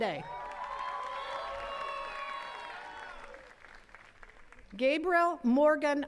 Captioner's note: attendees cheering and clapping